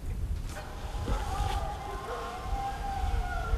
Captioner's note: dogs barking, howling